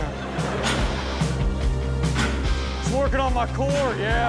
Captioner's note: peppy music; machine clanging